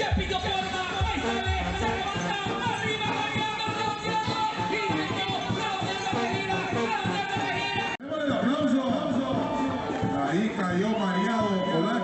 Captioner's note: announcer commentating